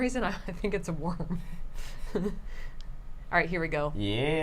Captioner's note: laughs